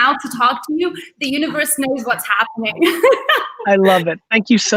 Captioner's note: laughs